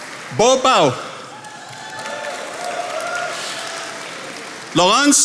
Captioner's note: attendees applauding